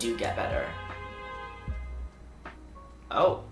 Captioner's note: loud car honking it's horn outside window